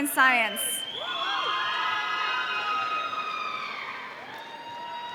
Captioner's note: audience cheering